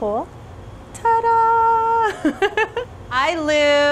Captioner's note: chuckles